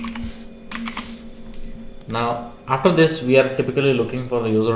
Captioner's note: Keychron K8 Typing